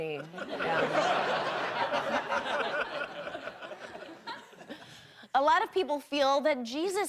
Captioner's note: audience laughing